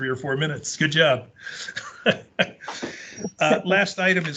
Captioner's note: laughing